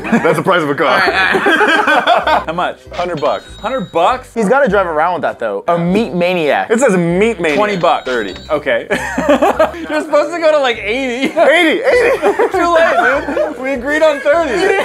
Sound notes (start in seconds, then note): 8.8 laughs